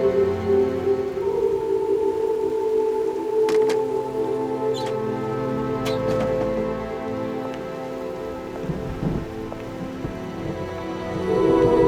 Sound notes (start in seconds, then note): 0.3 somber music continues; 3.5 phone clicks; 8.3 somber music continues